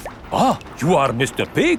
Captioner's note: none